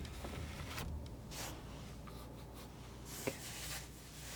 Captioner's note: scratching